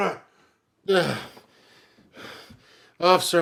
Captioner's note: Patrick groans